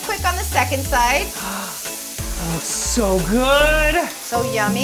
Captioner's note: gasps; gentle music